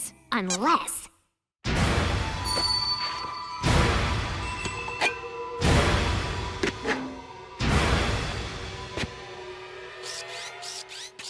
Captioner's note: squeaks